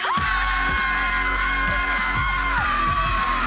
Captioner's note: loud screams